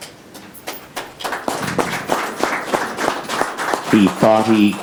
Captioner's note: audience applauds